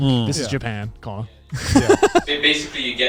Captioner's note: laughs